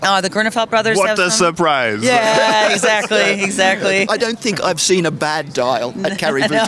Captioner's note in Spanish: Risas